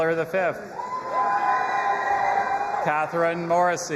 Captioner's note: audience applauding and cheering